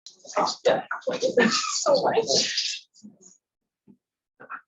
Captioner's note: people talking in background